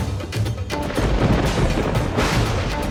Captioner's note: thundering